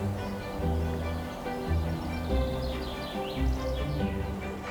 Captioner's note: birds singing